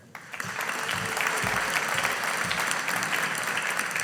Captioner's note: audience applauding